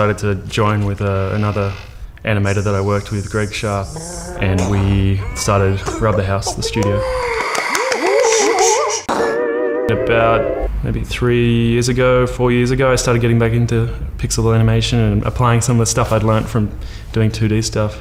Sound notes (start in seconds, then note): 6.5 cheering and applause; 8.3 boing!